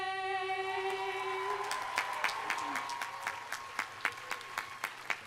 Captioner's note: audience applauding